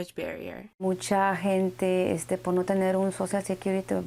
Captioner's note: speaking Spanish